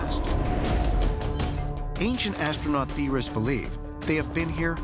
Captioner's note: beeping